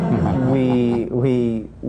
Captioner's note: laughter